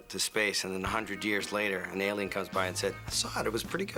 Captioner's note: none